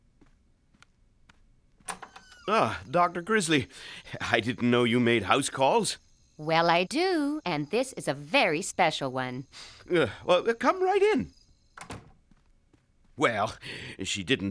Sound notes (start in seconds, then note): 9.5 sniffling